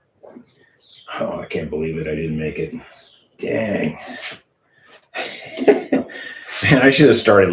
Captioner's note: laughter